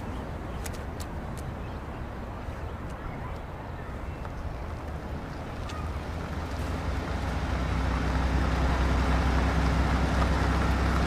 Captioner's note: dog barking